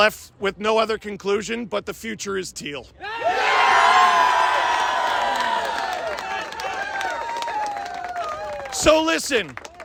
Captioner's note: crowd cheers